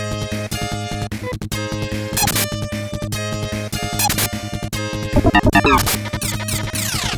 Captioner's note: game audio